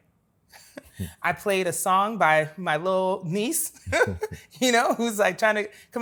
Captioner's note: laughs